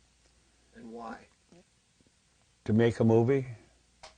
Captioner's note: voiceover